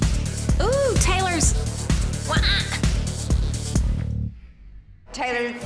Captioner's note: screeching